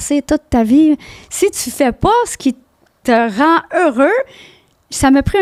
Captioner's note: in french